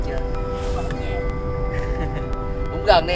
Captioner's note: forced laughing